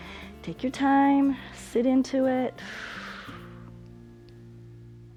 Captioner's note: exhales